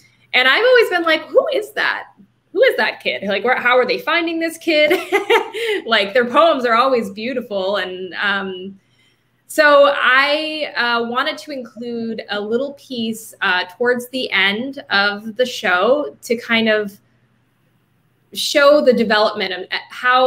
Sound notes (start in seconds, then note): 4.8 laughing